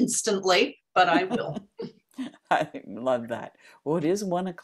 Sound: laughs

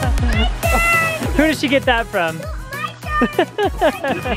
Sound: laughs

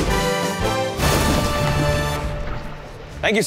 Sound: thunder clap

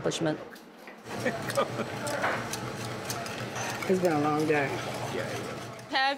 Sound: laughs

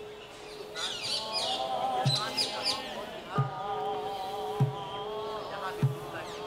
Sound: chanting; drums beating

